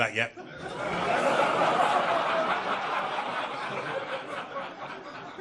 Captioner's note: audience laughing